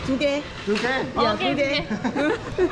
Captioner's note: laughs